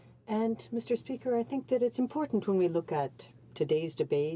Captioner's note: speaking in french